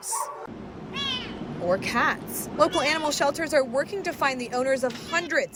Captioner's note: barking; meow